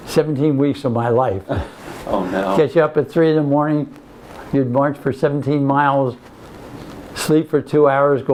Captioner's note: laughs